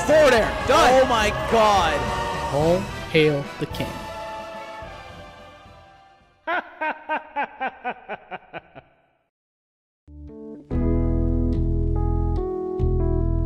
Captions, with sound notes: All hail the king. *Ganondorf laugh*